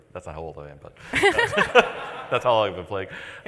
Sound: laughter

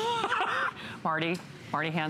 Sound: laughter

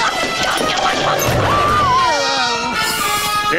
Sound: screaming

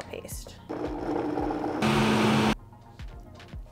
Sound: whir

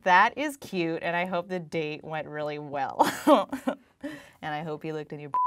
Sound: laughter

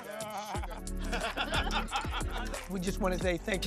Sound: laughter

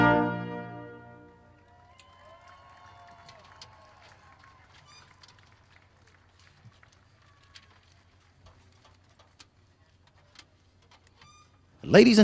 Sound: applause and Cheering

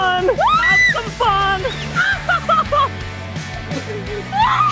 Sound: screams; laughing; shrieks

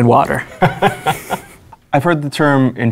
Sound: laughing

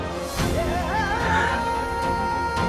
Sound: sighs

